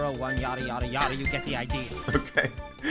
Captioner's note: chuckles